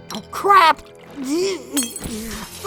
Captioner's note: Kirito whimpers; Godfree grunts; Kirito whimpers; item break SFX